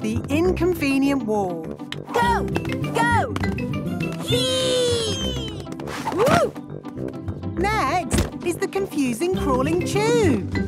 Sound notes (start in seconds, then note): 6.4 thumps